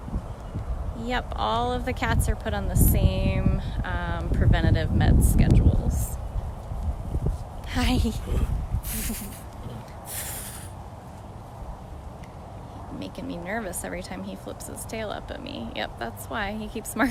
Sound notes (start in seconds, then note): 6.7 chuffs